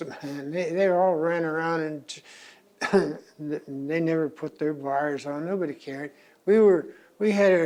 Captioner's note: coughs